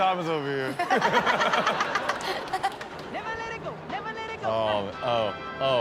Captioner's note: all laughing